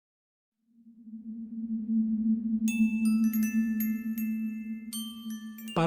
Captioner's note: toys chiming